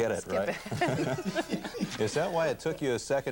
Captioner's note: laughter